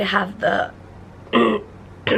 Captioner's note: clears throat